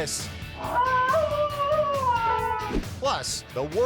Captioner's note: dog howling